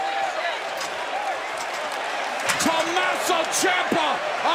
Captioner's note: cheers and applause